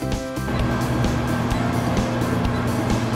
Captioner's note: 🔥 Oven Sound 🔥